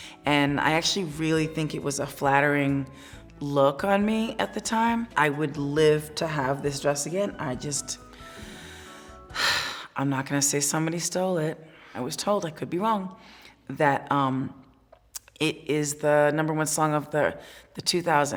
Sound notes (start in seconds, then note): 8.2 sighs